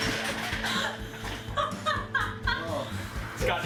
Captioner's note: laughs